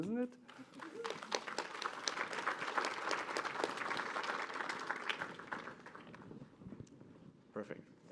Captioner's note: applause